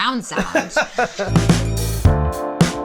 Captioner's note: laughing; upbeat jazz music